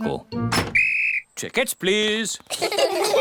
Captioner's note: blows whistle; all laugh